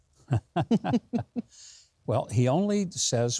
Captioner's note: both laughing